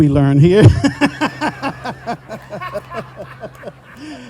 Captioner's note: all laughing